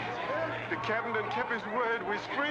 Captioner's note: freed slaves chattering